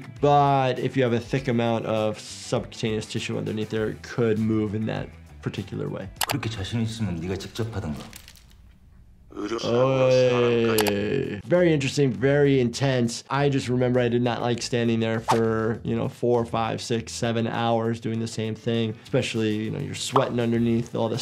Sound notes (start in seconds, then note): 6.2 mouse clicks; 6.5 man speaking in foreign language; 8.2 skin squelches; 10.7 mouse clicks